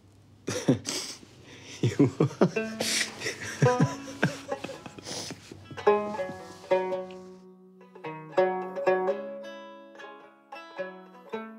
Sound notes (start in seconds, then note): 3.4 laughing